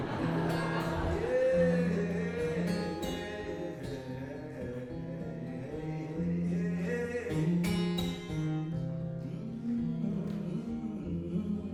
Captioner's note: humming